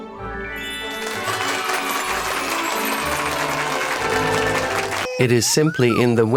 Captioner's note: applause